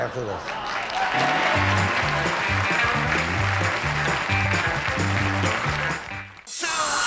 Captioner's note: audience applauding